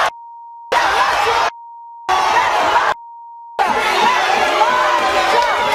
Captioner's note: audience yelling